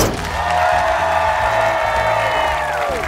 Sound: cheering

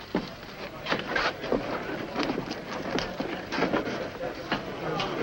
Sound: crowd muttering loudly

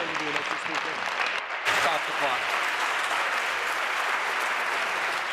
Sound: applause

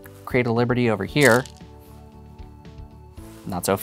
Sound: stones rattling

